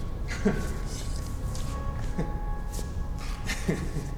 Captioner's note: Faze laughing